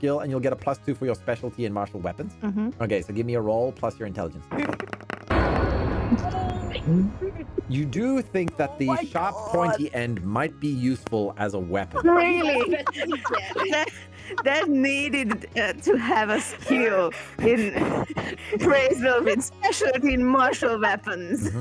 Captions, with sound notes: and you'll get a plus two for your specialty and martial weapons. Okay, so give me a roll, plus your intelligence. You do think that the sharp pointy end might be useful as a weapon? Really? (laughs) That needed to have a skill in appraisal, especially in martial weapons.